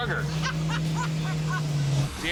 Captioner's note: laughs